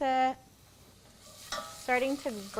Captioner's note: pan sizzles